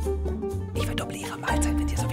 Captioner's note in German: flüstert